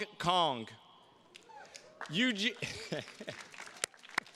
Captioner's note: attendee cheering; chuckles; attendees clapping